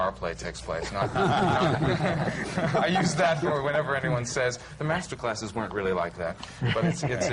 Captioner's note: laughter